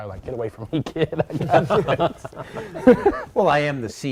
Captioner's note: laughter